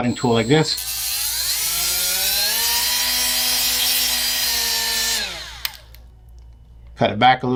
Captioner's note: machine whirring